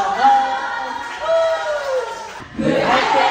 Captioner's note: cheers; singing